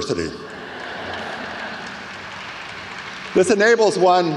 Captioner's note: audience laughs